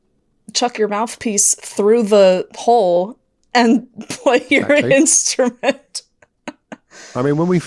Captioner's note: laughing